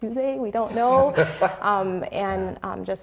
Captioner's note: laughing